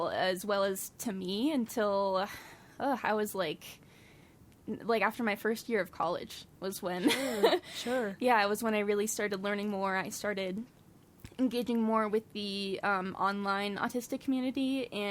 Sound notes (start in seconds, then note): 7.2 laughs